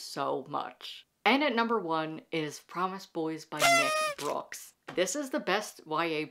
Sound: party horn

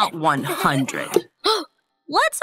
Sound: gasps

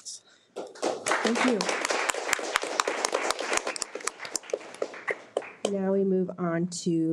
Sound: audience applauding

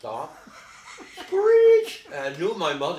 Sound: laughing

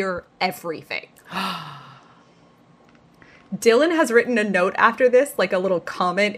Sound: gasps

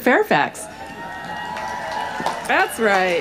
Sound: crowd cheering

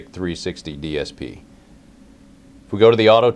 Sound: pause

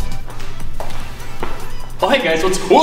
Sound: footsteps pattering

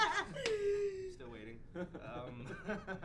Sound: laughs

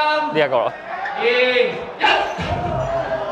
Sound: indistinct chatter

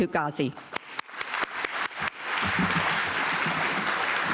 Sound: audience applauding

